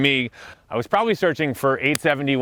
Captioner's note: hands smacking